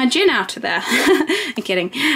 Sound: laughs

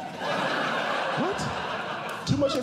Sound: audience Laughing

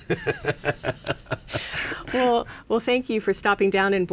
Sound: laughs

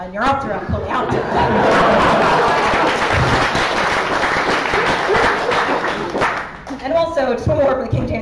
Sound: laughter and applause

